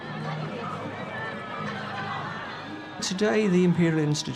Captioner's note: crowd chattering